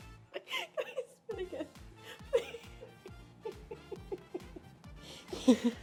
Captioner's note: laughs